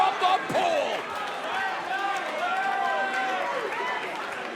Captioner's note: crowd cheering